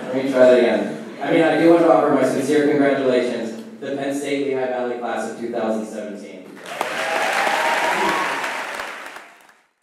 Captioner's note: applause